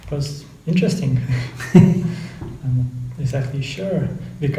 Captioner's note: laughing